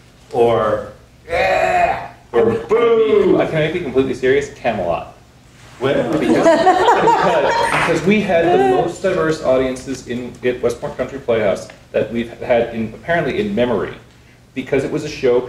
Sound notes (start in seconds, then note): 5.9 people laughing